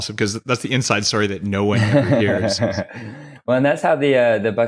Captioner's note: laughs